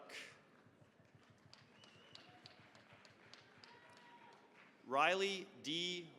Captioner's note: cheering, applause